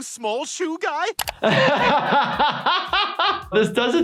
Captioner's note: laughs